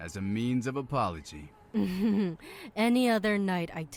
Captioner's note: smug laugh